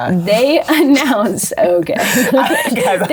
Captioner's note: laughs